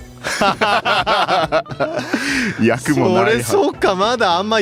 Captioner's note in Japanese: 笑い